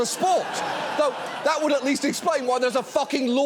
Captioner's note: audience laughs